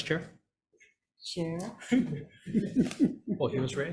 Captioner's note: everybody laughing